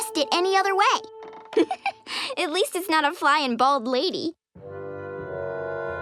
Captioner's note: laughs